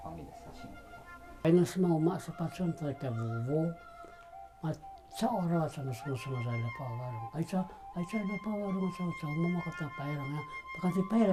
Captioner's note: paiwan language